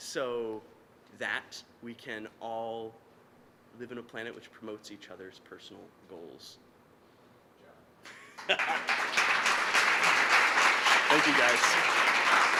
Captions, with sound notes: "So that we can all live in a planet "which promotes each other's personal goals." >> Good job. >> (laughing) (applause) Thank you, guys.